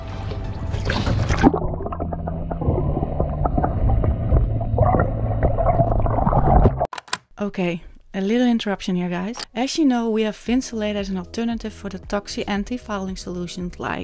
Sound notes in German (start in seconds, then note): 0.0 Wasser gurgelt; 6.8 Kameraklick